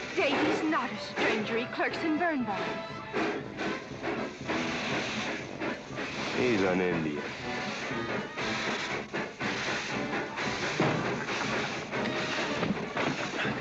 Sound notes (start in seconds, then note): 3.6 train chugging away; 7.8 train rumbling & crowd noise; 12.5 loud bump